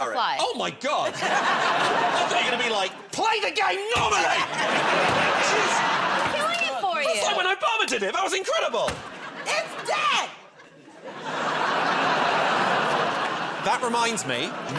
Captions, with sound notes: -Oh, my God. I thought you were gonna be like, "Play the game normally!" [ Laughter ] Geez. -I'm killing it for you. -That was like when Obama did it. That was incredible. -It's dead! [ Laughter ] -That reminds me,